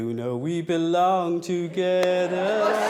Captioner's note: guests laughing